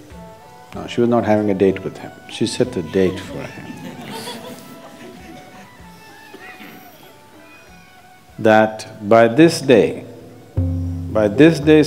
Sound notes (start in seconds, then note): 6.8 few laugh